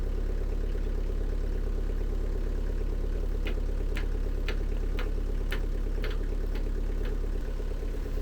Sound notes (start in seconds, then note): 3.5 hammer thumping